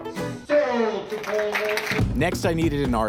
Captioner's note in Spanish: aplausos